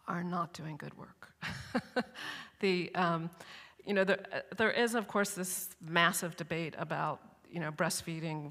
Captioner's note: chuckles